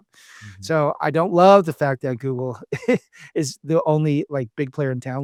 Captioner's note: laughs